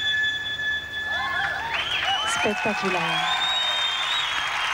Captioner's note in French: applaudissements